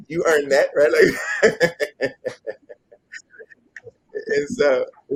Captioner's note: laughs